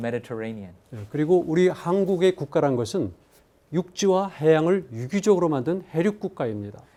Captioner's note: speaking in Korean